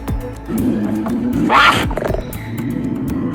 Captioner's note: wild cat snarling